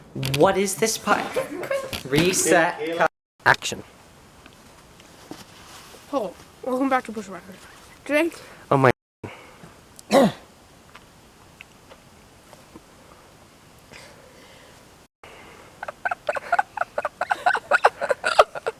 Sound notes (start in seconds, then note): 10.1 coughs; 15.8 laughter